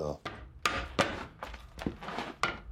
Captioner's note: hammering